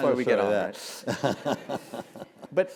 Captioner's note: laugh